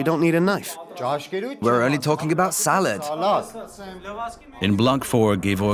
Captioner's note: voiceover